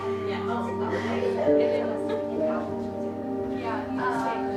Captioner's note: cadets crying